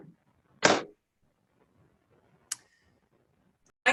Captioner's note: gavel banging